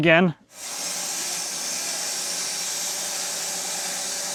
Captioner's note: saw whirring